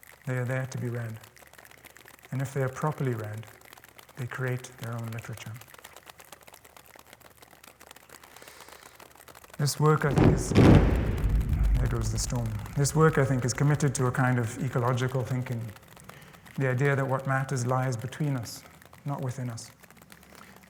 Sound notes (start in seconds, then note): 10.9 cracking